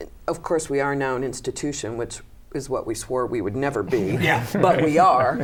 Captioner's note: laughter